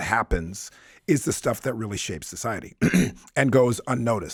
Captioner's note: clears throat